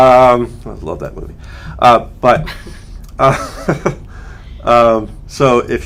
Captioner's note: laughter